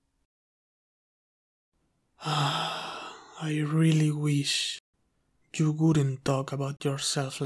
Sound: sighs

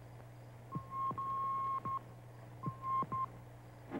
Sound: beeping

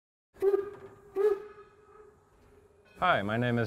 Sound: train whistle

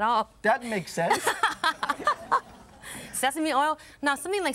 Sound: laughs

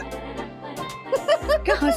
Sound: laughing

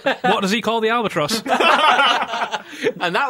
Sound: laughing; laughter

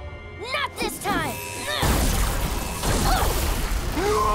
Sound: grunting

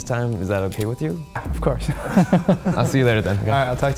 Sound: laughs

